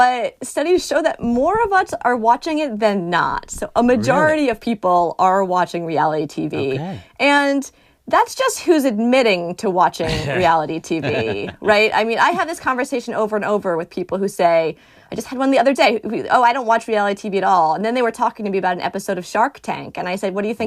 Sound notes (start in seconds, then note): 10.0 laughter